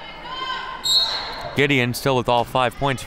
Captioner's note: referee blows whistle